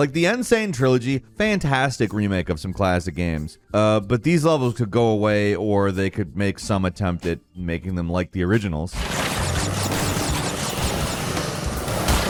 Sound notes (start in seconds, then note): 9.0 fruit whooshing